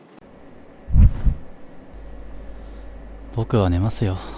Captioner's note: sound of falling into bed